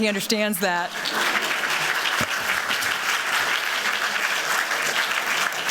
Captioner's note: applause